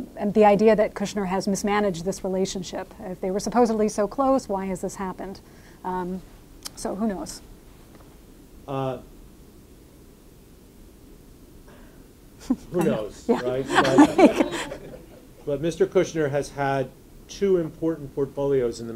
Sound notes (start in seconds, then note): 13.4 audience laughing; 13.4 sighing